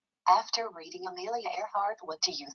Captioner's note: computerized Voice